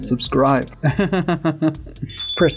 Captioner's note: laughter